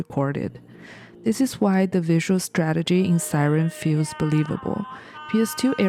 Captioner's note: siren